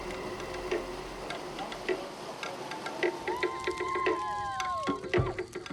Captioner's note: drum beats; people cheer